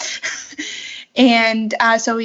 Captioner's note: laughs